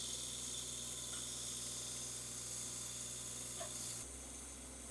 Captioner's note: machine drilling